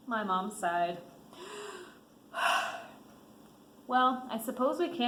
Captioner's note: sighs